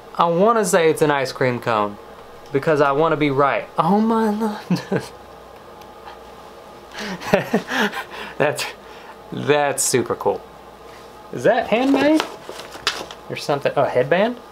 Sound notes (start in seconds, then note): 5.1 chuckles